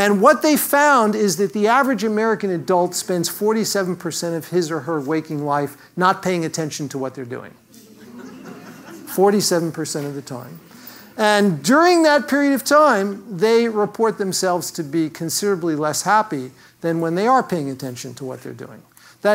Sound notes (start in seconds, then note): 7.8 laugh